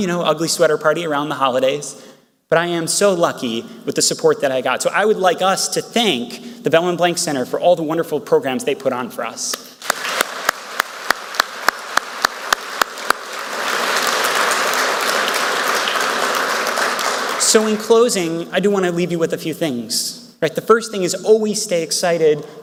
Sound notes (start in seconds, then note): 9.8 speaker and Audience members clapping; 13.7 audience members clapping